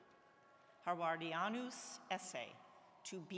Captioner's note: speaks in Latin